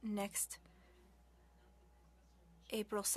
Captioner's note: speaking French